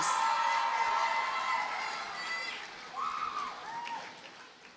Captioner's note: audience cheers and applauds